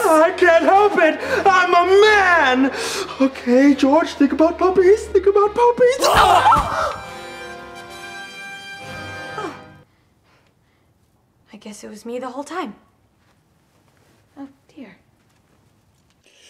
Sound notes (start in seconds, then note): 6.0 George and angel groan; 7.0 horror music